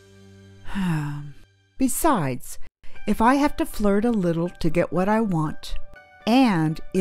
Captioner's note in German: Seufz